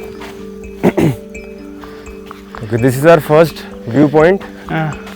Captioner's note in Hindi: गला साफ़ करने की आवाज़